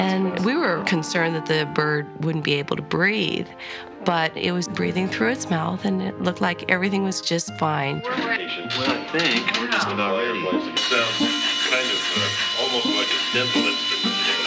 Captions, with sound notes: And we were concerned that the bird wouldn't be able to breathe, but it was breathing through its mouth and it looked like everything was just fine. (grinding)